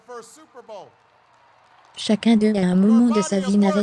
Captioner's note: audience applauding